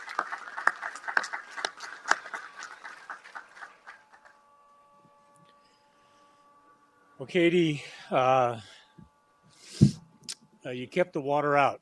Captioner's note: applause